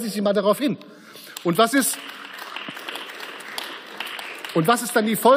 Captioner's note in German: Beifall